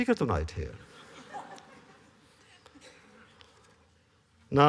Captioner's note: laughter